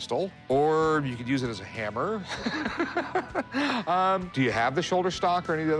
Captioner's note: laughs